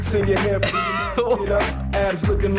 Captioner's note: laughing